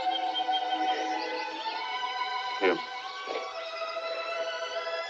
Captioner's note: crying